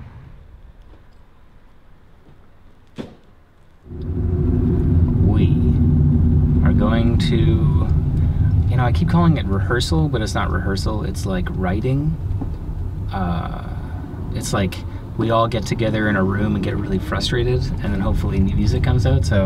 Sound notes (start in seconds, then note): 2.9 car door opening